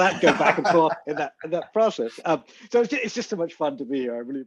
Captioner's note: laughs